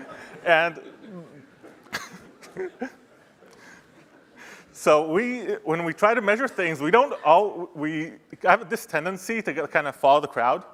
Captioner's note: laughter; laughing